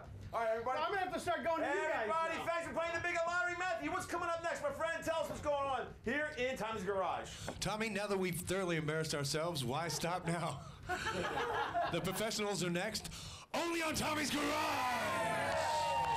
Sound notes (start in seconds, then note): 9.8 laughter